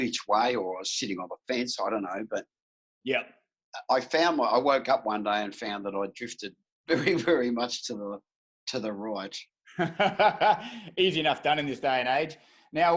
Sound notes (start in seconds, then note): 9.7 laughing